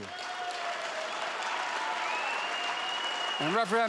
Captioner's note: applause